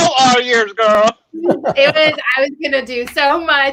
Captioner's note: laughing